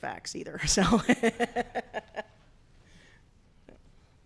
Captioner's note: laughs